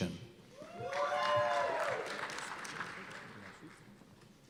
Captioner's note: cheers and applause